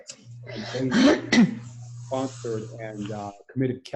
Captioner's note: clears throat